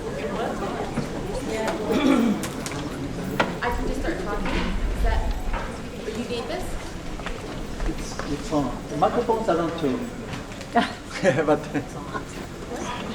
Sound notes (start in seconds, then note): 10.7 laughing